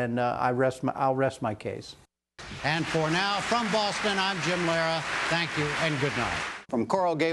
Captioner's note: applause